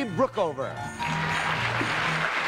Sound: cheers and applause

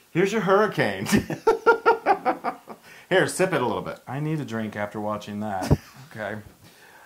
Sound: laugh

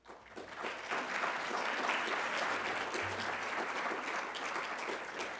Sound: applause

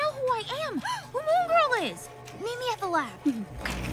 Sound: gasps

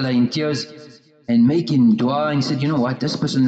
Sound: supplicating

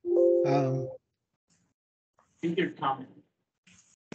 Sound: computer chimes

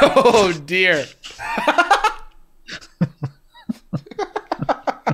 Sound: laughter

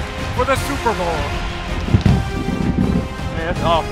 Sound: upbeat electronic music; fireworks booming

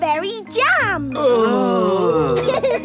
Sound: groaning; laughing

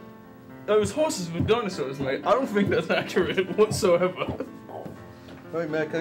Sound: laughing

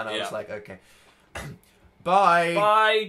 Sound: cough

